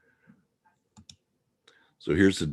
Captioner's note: mouse clicking